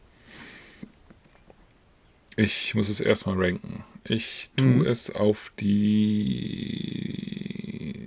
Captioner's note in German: schnauben